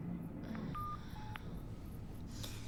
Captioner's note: groans